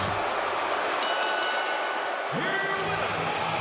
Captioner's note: bell ringing